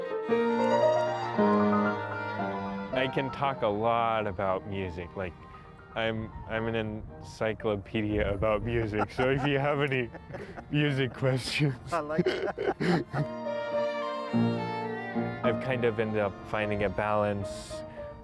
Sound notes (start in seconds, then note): 0.1 fast-paced symphonic music; 11.3 laughs; 13.4 symphonic music